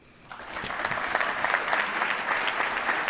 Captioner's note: applause